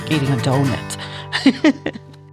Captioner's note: laugh